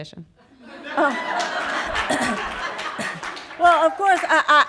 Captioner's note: audience applauding